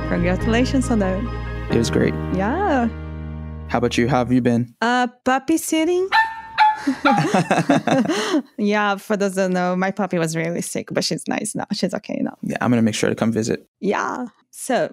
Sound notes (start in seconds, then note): 6.1 puppy barking; 6.7 laughter